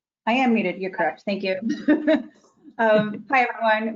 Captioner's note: laughing